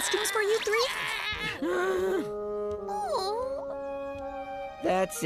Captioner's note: sympathetic squealing; groaning